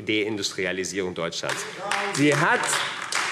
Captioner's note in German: Beifall : Darum geht es doch!